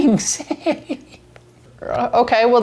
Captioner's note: giggling